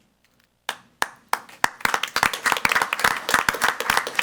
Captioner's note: all applauding